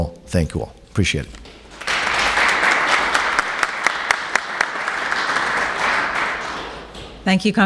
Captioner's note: applauses